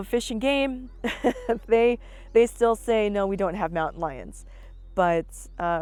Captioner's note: laughs